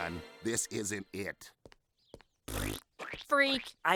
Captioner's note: blows raspberry